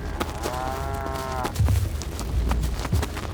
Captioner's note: cattle mooing